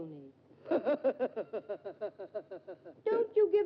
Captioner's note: Sneed laughs